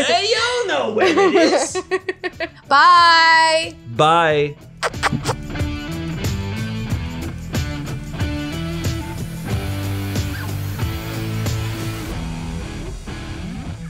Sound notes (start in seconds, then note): 1.0 laughing; 4.8 smooching; 4.8 upbeat music